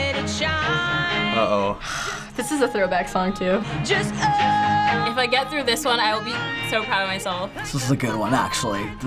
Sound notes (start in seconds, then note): 1.3 sighing